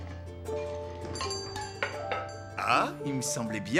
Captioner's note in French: sonnette de la porte